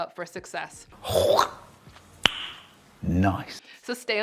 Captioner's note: slurps